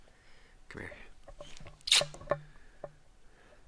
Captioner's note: kiss